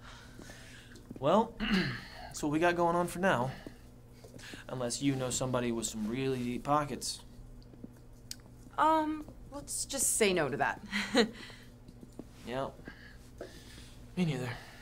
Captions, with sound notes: - Well, it's what we got going on for now. Unless you know somebody with some really deep pockets. - Um, let's just say no to that. (chuckles) - Yep. Me neither.